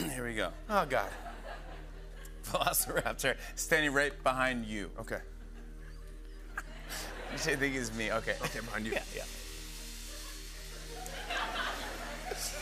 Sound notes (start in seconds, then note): 5.5 laughs; 10.8 laughter